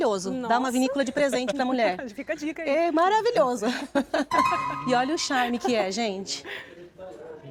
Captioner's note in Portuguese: risadas